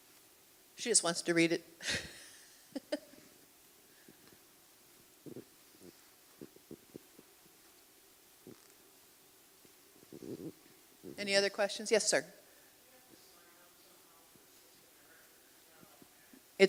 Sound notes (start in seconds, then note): 1.8 chuckles